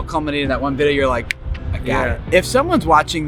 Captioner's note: fingers snapping